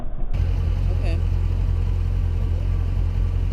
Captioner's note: engine running